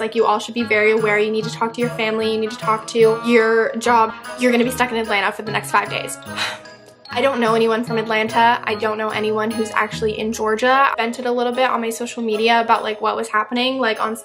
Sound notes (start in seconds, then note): 6.3 sigh